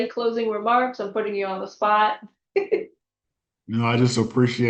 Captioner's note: giggles